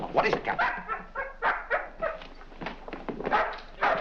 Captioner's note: barking